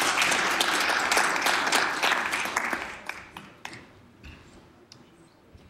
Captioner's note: applause